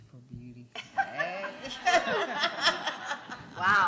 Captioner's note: laughter